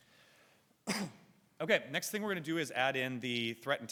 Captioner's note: coughs